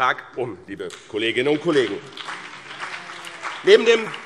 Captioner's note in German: Beifall BÜNDNIS 90/DIE GRÜNEN und vereinzelt CDU